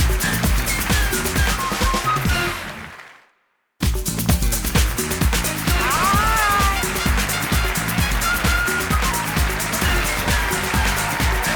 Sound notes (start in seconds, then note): 4.2 applause & cheers